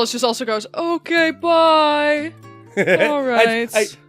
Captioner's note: laughs